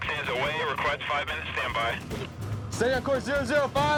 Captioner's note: man On Radio